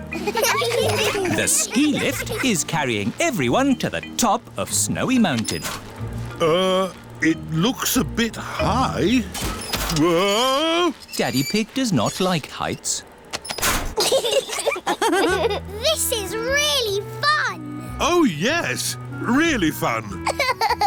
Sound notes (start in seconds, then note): 0.1 laughter; 13.9 laughter